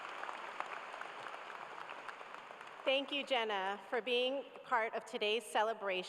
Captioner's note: cheers and applause